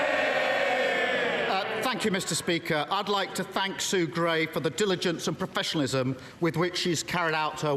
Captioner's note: crowd Noise